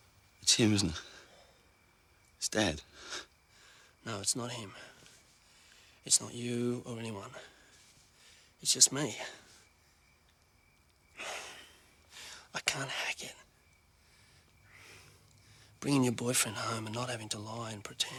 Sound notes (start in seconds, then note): 11.1 sighs